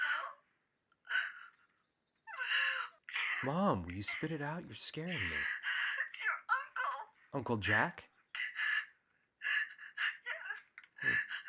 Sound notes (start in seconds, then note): 2.2 Angie sobbing